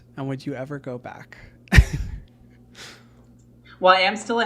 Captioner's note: laughs